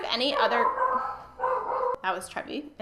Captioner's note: dog barking